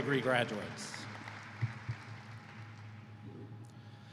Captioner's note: applause